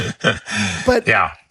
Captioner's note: laugh